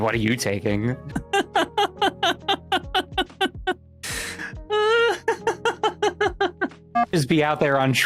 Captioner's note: laughter